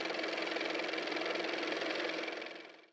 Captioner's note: car motor